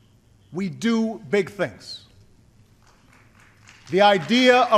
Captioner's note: applause